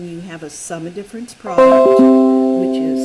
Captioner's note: computer chime